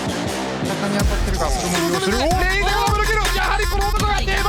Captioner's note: foreign language